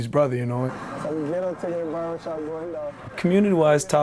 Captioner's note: mixed chatter